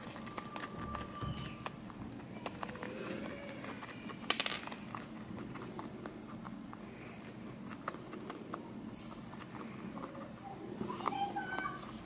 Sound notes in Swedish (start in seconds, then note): 0.0 marsvin tuggar på pellets